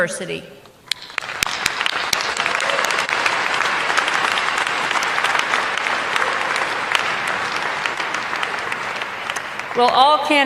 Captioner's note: applause